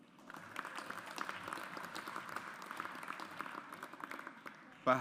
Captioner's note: audience applauds